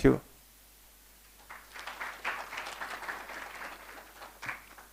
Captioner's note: applause